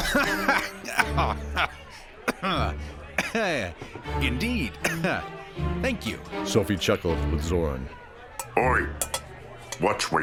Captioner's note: cough/sputter